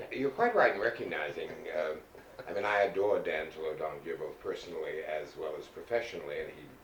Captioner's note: laughter